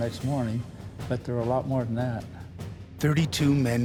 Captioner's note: voiceover